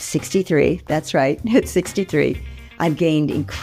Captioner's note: giggles